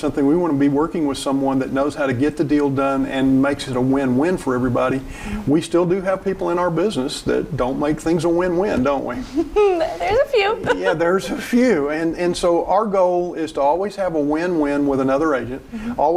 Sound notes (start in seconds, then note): 9.2 chuckling